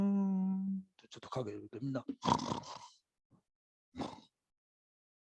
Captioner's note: snoring